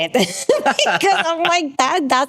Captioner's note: both laughing